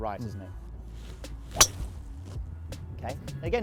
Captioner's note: thwack sound